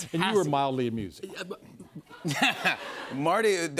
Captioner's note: stammers; laughter